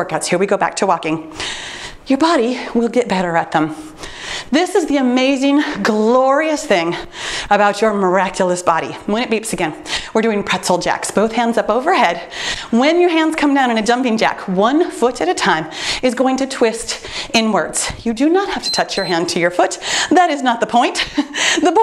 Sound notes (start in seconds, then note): 18.5 timer beeps